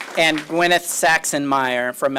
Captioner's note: applause